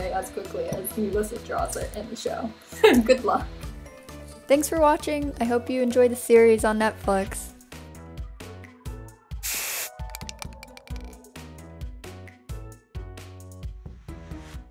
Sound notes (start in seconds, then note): 2.9 laughing; 7.7 upbeat playful music; 9.4 paint fizzes; 9.9 paint can rattles; 12.3 upbeat playful music